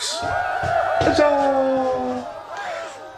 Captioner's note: cheerin